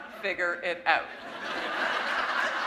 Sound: laughter

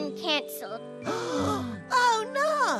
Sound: gasp

